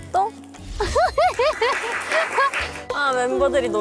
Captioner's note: thunderous applause